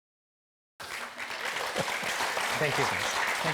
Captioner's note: audience applauds